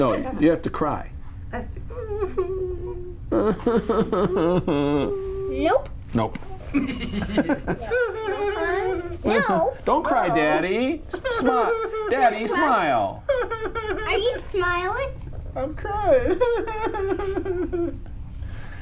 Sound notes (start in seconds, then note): 2.0 mom makes crying sound louder; 7.8 makes crying sound again; 16.1 dad in a sad voice